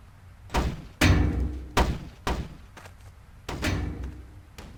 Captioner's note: barrel clanging